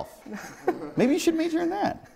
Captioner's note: laughs